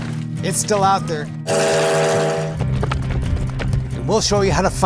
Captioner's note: train whistling